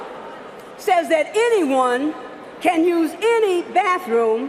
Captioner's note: booing